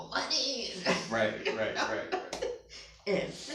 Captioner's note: laughs